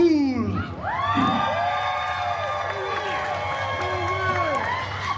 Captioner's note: guests cheering and applauding